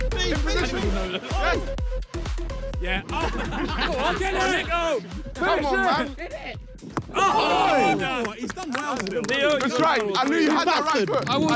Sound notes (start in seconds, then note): 0.3 upbeat instrumental music; 2.9 players laugh; 6.9 players shout